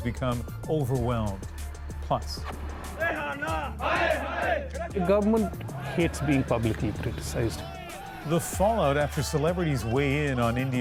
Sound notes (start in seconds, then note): 5.6 chanting